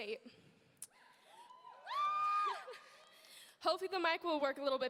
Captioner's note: audience cheering